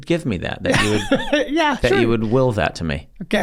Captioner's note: laughs